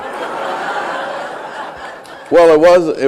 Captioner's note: laughter